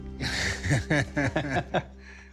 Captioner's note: both laugh